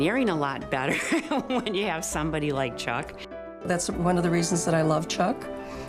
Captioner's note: laughs